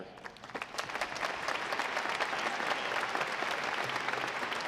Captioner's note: audience clapping